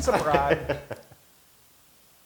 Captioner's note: laugh